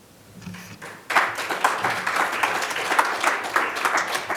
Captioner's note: audience claps